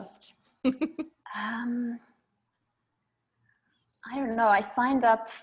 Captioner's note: laughs